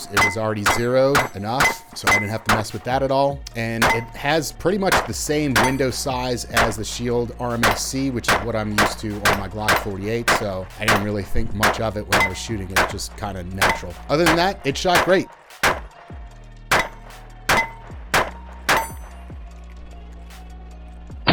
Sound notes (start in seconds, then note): 15.6 gun firing